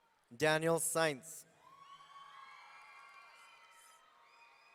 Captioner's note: audience cheering